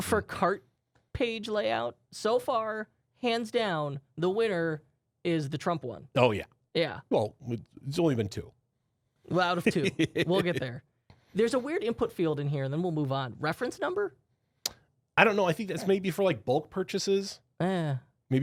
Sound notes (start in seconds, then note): 9.7 softly laughing